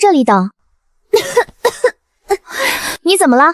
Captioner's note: cough cough cough